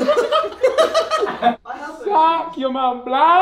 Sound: all laugh

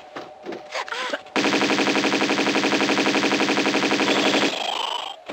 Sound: BRATATATATATATATATATATAdoyouliketrainsTATA

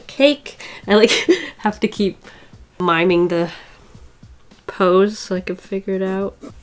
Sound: laughs

